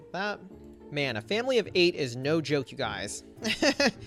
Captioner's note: laughs